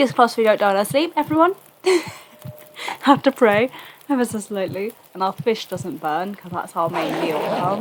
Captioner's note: laughs